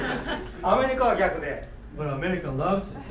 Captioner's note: laughing; speaking in foreign language